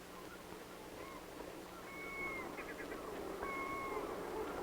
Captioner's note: seagulls cawing